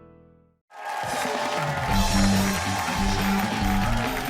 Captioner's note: cheering